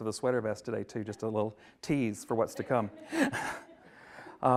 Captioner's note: laughs